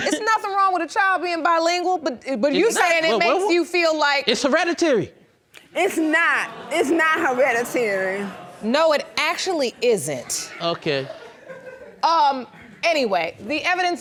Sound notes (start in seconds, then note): 6.0 audience exclaiming; 10.8 audience laughs